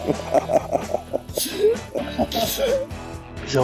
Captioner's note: laughing